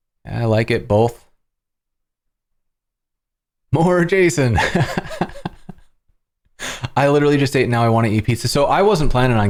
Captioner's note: laughter